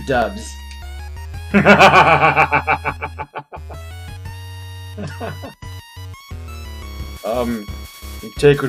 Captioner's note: laughs